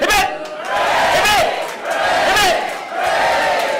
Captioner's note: cheering and applause